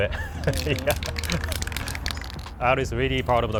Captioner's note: laughs